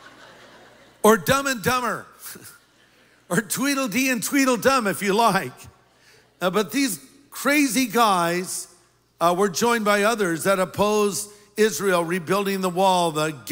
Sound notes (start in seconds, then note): 2.6 laughter